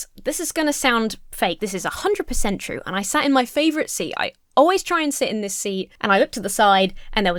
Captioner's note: none